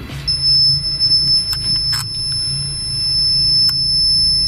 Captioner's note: REM pod beeping